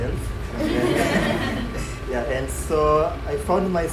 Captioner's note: audience laughing